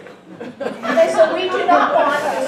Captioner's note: audience chuckling